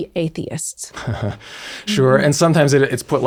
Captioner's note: chuckles